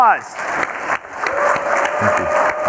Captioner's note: audience clapping